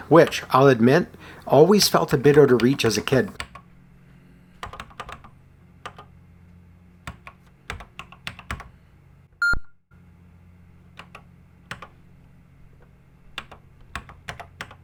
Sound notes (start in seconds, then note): 7.6 typing on a C64 keyboard